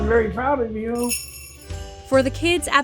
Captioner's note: bells jingling